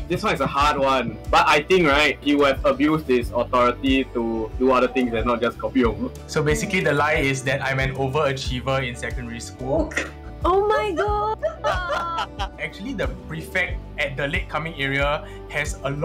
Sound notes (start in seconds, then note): 11.0 laughs